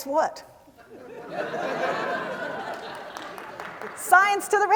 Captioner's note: laughter